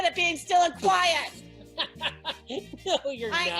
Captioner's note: laughing